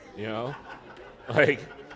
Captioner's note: laughter